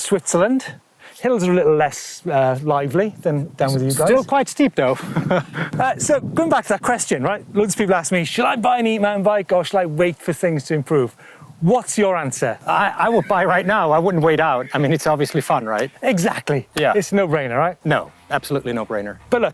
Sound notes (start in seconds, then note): 4.8 laughs